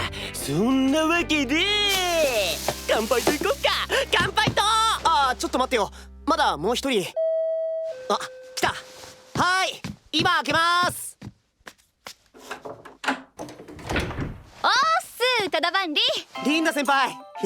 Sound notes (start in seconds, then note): none